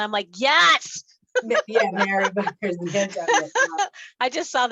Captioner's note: laughs